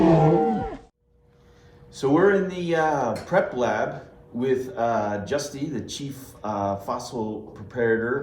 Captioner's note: presumed velociraptor noises